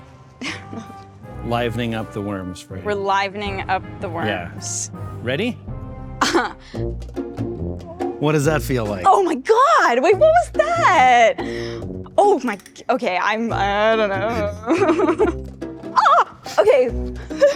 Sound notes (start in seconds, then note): 0.4 laughs; 6.2 chuckles; 14.3 chuckles; 15.9 shrieks